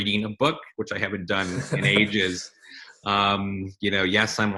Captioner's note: laughs